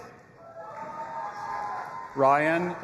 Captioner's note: audience applauding and cheering